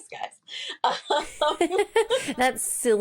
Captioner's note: laughs